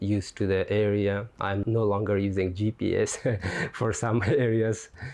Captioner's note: laughs